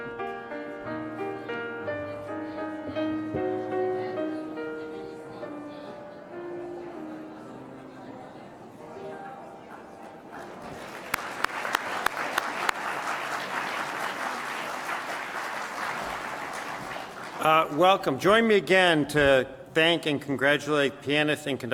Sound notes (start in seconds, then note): 10.3 applause